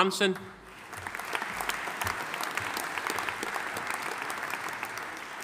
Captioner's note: audience applauding